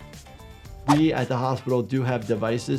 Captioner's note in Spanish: gráficos silbando